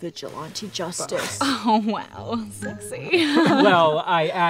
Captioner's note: both giggle